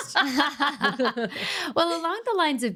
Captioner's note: laughing